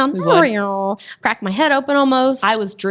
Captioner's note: makes sounds like a hoverboard